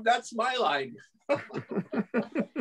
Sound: laughter

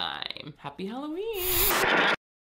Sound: static crackles

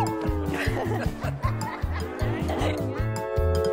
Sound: laughs

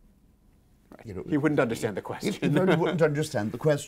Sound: laughing

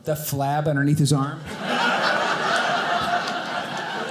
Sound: audience laughing

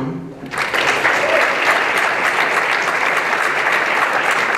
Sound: applause

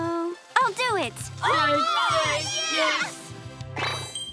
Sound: cheering

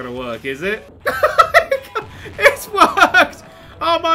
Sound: hysterical laughter

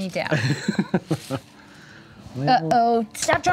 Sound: chuckling

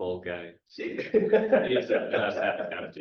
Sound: chuckle

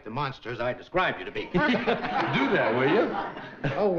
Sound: laughing

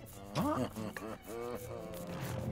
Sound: quiet laughing

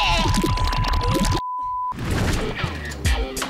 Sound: vomiting; electronic music

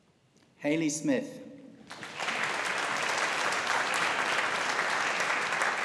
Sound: audience applauding

